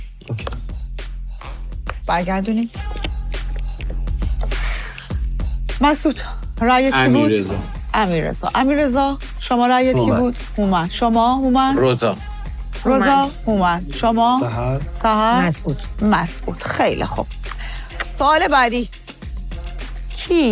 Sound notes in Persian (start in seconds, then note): none